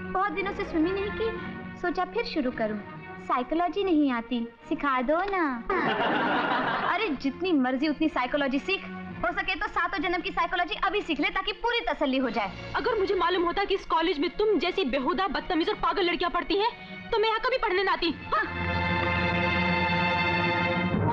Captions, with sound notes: I didn't swim for many days so I thought of starting it again. I do not know psychology, teach it to me. - (Laughs) Learn as much psychology as you want. If possible then learn psychology... ...for your next seven births, so that you are fully satisfied. If I would have known that there are ill mannered... ...stupid and crazy girls like you in this college then... ...I would have never come here to study.